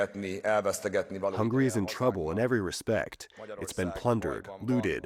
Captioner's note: through translator